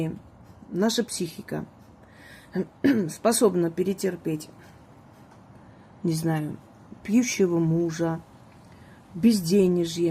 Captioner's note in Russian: откашливается